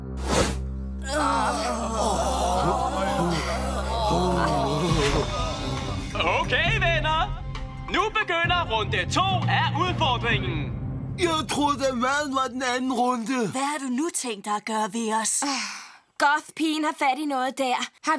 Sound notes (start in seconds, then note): 1.0 all groaning